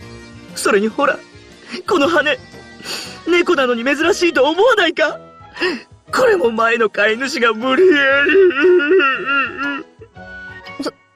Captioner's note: sob